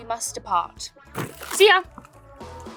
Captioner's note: purse chain clangs